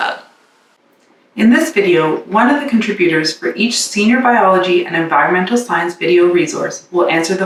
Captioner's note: in English